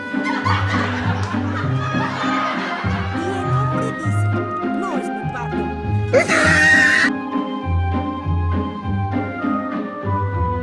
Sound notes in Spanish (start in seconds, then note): 1.6 risas enlatadas; 6.1 se ríe